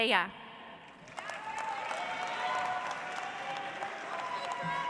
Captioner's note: audience applauds